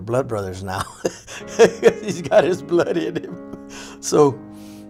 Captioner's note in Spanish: risas